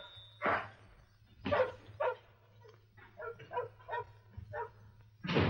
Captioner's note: dog barking; door slams